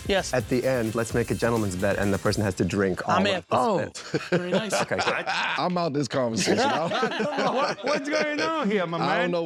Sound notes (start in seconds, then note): 4.1 laughing